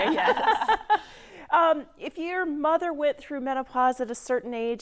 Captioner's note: laughing